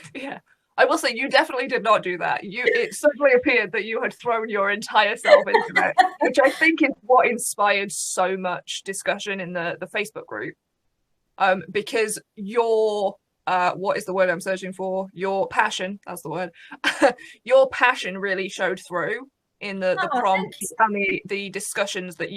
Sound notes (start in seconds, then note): 5.2 laughs